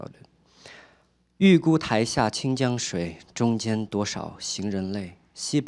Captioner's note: speaking chinese